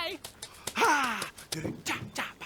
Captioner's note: contented sigh